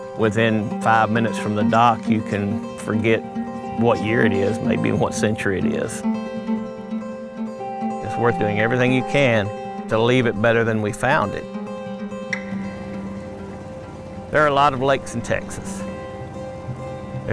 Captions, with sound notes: Within five minutes from the dock you can forget what year it is, maybe even what century it is. It's worth doing everything you can to leave it better than we found it. (boat engine revving) There are a lot of lakes in Texas,